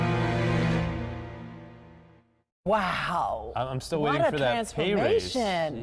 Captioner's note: sirens